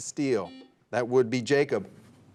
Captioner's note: buzzer dings